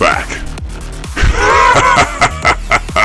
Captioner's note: laughing